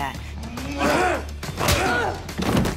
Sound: grunts

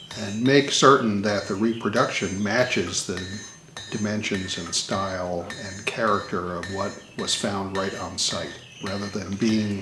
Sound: sound of hammering continues

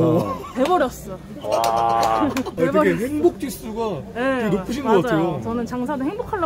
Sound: laughing

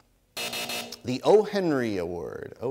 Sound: buzzer sounds

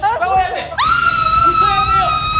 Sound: screaming

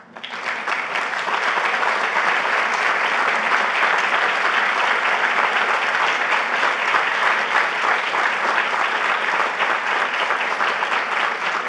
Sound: applause

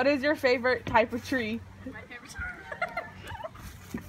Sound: laughs

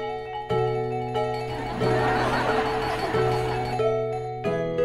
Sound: happy Music; laughter; happy Music

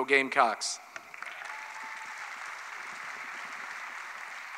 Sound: applause

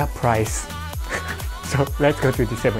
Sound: chuckles

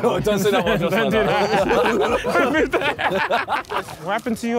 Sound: laughing

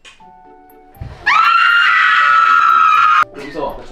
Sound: screams

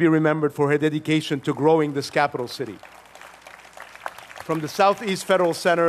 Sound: applause

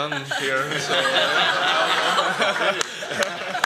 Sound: laughing

